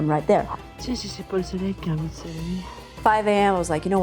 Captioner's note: French